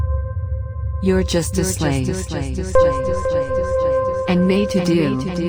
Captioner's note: voice echoing